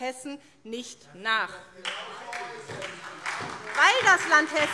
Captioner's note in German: Beifall SPD